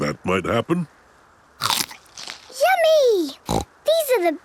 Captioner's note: crunch!; snorting